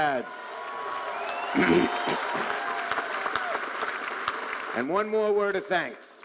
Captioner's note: audience cheering and applauding